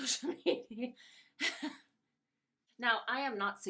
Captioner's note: laughing